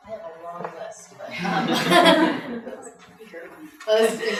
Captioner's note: laughing